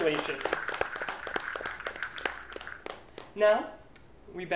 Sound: applause

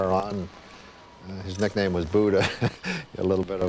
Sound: laughs

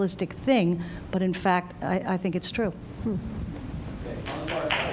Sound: applause

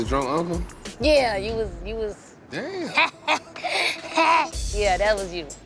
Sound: laughs

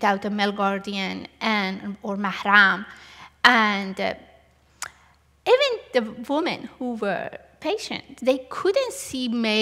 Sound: non-english

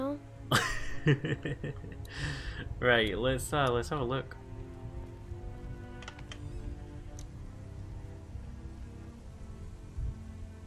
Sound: laughs

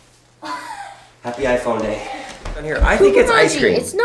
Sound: laughs

